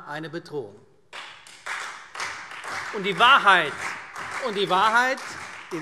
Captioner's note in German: Beifall CDU und Freie Demokraten